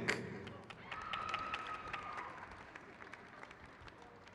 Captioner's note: crowd claps